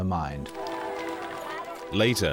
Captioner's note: crowd applauding; crowd cheering